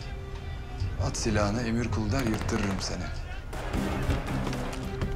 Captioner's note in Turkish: Silah sesleri